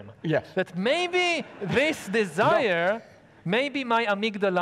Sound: audience laughing

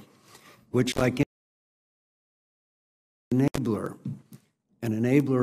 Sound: audio cuts out

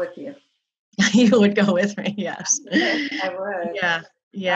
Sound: laughs

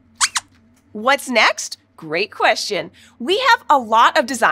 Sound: squeaks squeaking

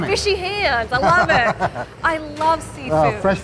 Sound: laughs

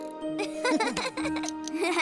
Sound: chuckles

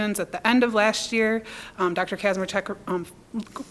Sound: none

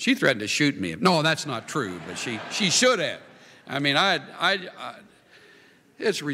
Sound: laughter

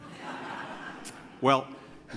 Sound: laughter

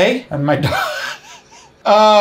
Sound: laughs

